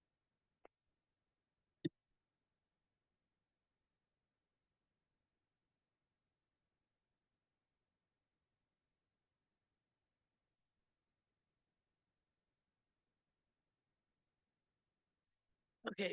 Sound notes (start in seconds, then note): 1.0 audio cuts out